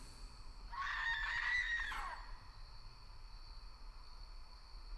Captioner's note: woman screaming